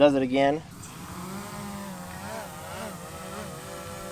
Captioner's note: drone buzzing